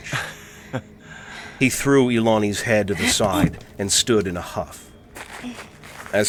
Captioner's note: Ilani panting in the background, Vullian lets out an exhale